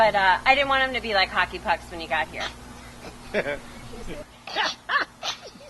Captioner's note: laughter